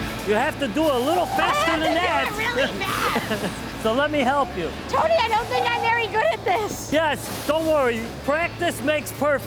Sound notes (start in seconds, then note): 2.9 laughter